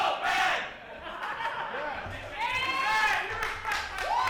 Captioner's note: laughing